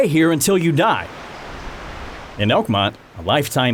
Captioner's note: water flowing; birds chirping